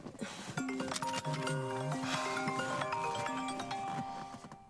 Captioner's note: cellphone ringing